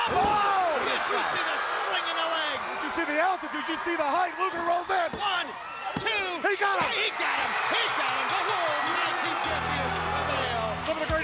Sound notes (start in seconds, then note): 7.8 bell rings